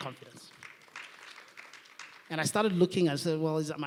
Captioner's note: applause